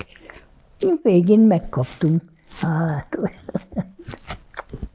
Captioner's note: laughing